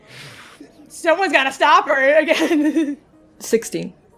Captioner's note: laughing